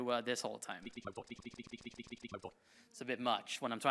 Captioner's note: computer glitching